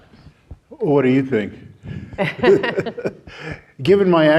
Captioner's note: laughing